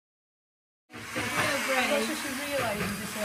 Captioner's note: motor whirring